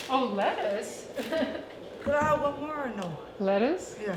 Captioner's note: laughter